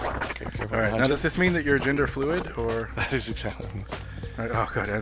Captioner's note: laughs